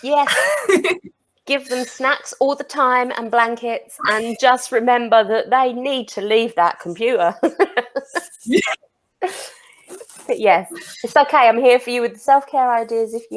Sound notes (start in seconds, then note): 7.4 laughs